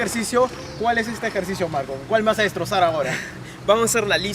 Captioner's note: laughs